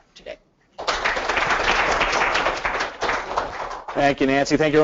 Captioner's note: applause